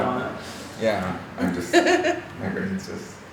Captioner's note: chuckling